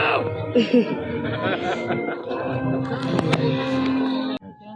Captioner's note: laughing